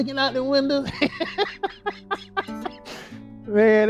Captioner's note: laughs